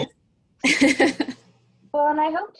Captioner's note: laughs